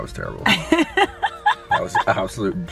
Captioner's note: laughs